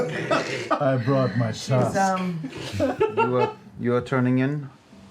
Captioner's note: sultrily